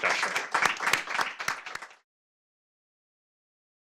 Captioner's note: applause